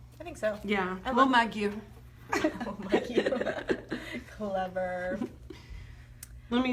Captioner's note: laughs